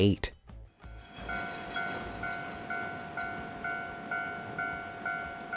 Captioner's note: train engine revving